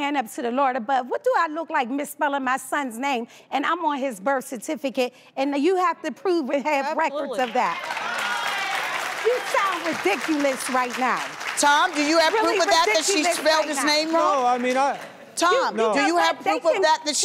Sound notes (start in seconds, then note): 7.8 crowd applauding